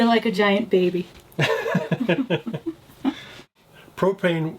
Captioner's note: laughs